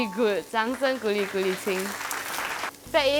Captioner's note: applause